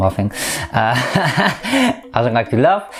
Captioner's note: laugh